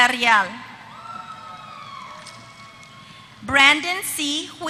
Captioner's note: applause